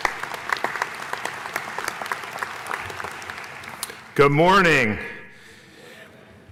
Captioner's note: applause